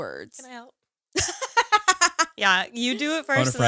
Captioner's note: laughing